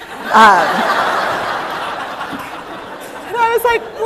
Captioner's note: laughter